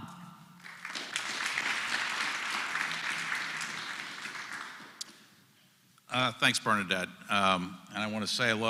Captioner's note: applause